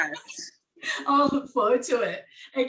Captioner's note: laughing